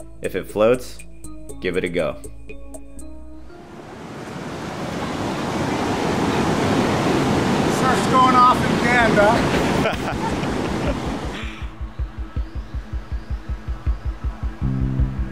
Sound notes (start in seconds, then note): 3.6 river roaring; 9.4 laughs; 12.6 mellow music